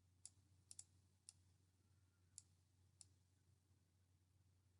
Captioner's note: mouse clicking